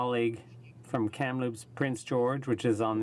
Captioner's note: speaking French